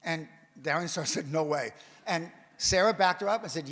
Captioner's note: none